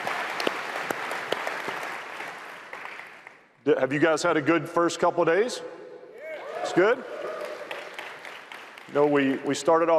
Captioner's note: applause